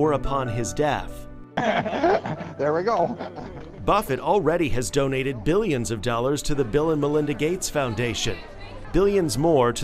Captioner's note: laughter